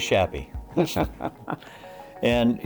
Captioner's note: chuckling